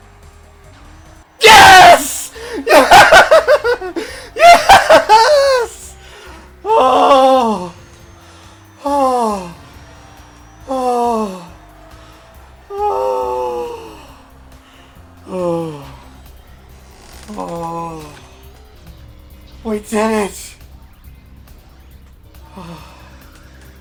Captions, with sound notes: YES! (laughing) YES! (sighing/sobbing) We did it! (sighs)